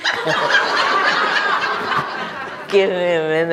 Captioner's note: everyone laughs